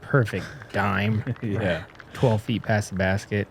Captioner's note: applause